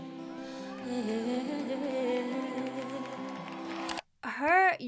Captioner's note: audience clapping and cheering